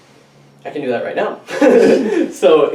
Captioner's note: chuckles